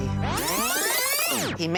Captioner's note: rewind effect